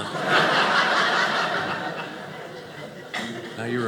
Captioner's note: audience laughing